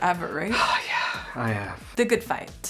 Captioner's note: Americ sighs